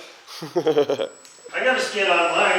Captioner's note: laughs